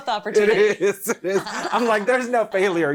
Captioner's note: laughs